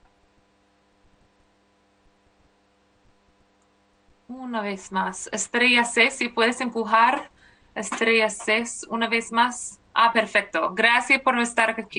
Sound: speaking spanish

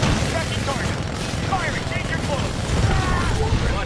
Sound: radio

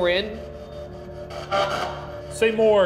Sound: spirit box buzzing

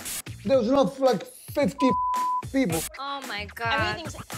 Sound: beep

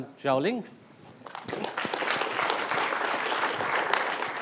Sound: applause

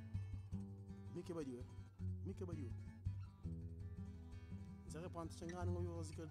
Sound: speaking in a language other than English

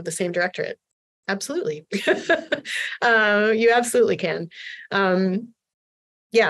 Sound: laughter

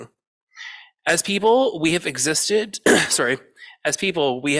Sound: clears throat

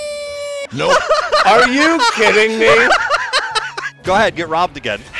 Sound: hysterical laughter

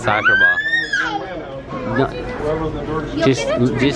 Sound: shrieks

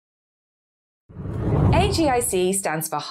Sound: screen whooshes

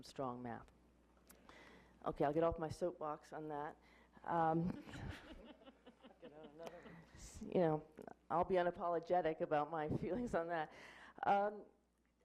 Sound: laughing

